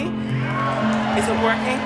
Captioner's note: cheering